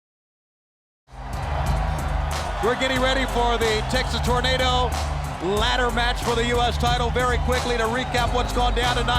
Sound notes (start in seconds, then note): 0.9 audience cheering; 0.9 upbeat music